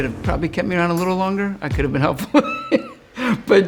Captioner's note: laughs